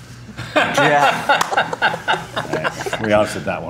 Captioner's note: Don laughs